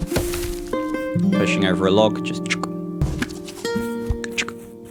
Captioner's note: makes "log being pushed" noise